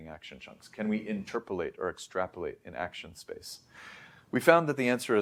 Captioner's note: inhales